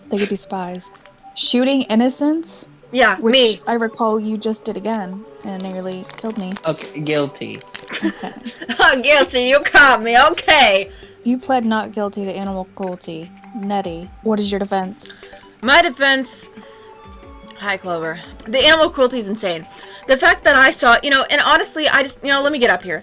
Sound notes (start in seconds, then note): 6.7 laughing